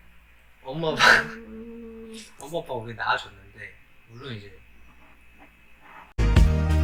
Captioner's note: laughs